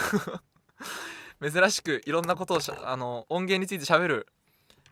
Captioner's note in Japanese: 笑い; 息をのむ音